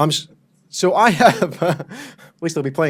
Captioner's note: laughs